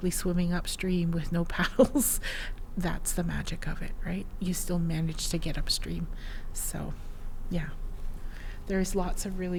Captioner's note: laughs